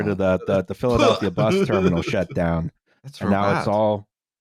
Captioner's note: laughs